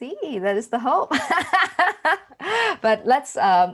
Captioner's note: laughing